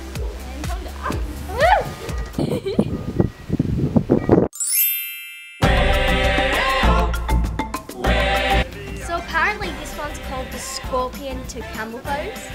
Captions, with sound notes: And come down. - Whoo! (chime) (upbeat African music) - So apparently, this one is called the Scorpion to Camel Pose.